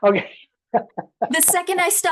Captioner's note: laughs